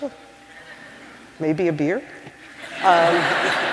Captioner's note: laughter